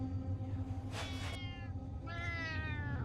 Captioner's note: cat noise